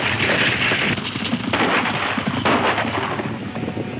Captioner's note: gunshots